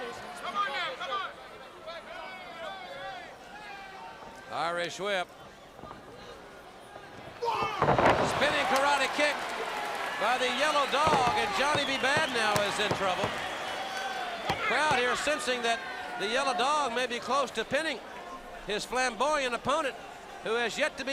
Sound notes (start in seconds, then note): 0.0 crowd chatter; 6.5 crowd cheering